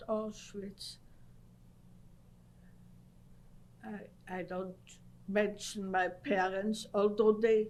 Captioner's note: pauses for 3 seconds